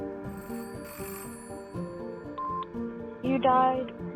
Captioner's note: telephone ringing